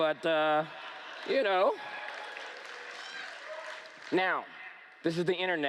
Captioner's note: laughter